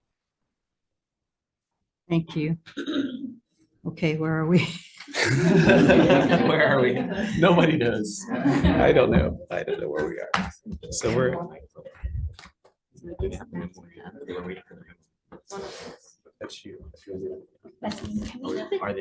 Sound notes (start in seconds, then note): 5.0 giggles; 5.2 audience laughing; 8.2 laughs